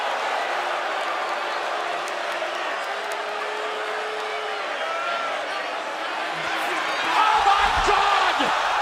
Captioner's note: crowd cheering